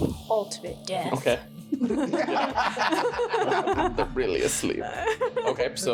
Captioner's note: laughing